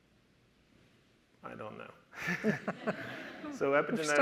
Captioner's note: audience laughter